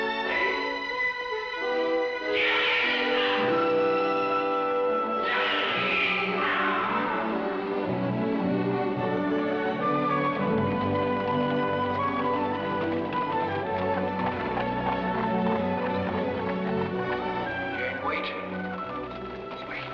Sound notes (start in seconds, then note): 0.0 dramatic music; 6.3 exasperated tone; 7.5 dramatic music; 10.2 hooves pounding